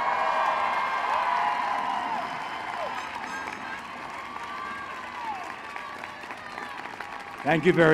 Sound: applause

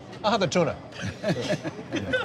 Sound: laughs

